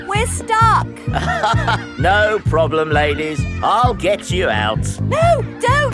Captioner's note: chuckles